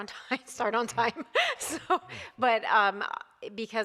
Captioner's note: laughing